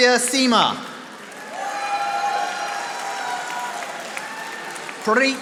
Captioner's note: audience applauding